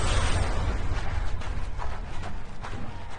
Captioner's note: feet shuffling